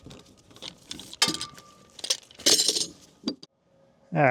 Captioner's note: metal clanking